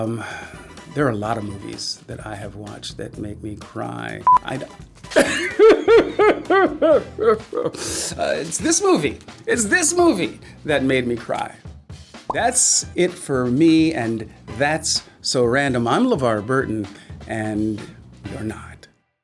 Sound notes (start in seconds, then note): 5.1 pretending to cry